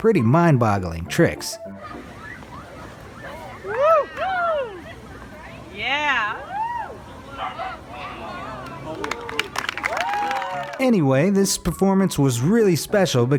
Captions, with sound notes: pretty mind-boggling tricks. (crowd cheering) (crowd clapping) Anyway, this performance was really special,